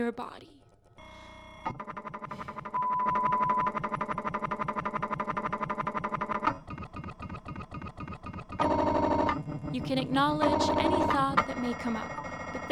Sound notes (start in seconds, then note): 1.4 extremely obnoxious MRI banging